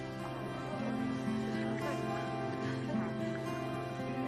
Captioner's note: gentle music continues; group chattering